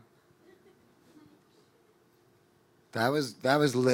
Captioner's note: audience laughing